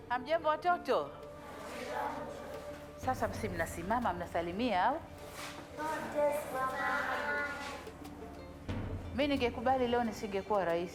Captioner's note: speaking native language and students respond